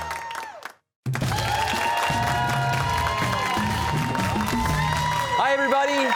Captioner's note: cheers and applause